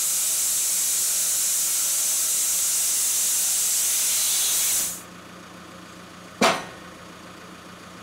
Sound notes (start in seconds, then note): 3.9 engine idling